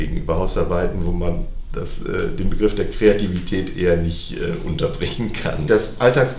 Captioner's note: laughs